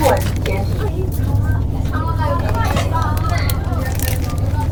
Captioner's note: laughs